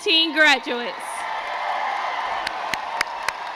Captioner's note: crowd cheers